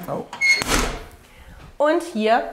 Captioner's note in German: Knarzen